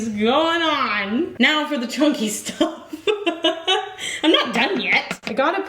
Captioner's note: laughs